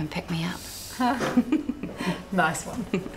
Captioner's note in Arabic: الفتيات يضحكن